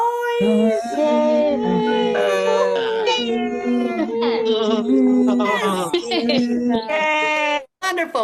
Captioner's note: cheering